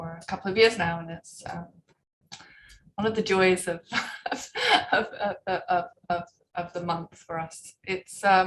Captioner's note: chuckles